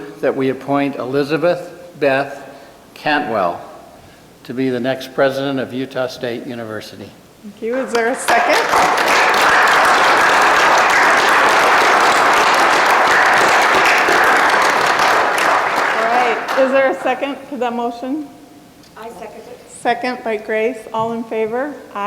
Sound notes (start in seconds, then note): 7.9 applause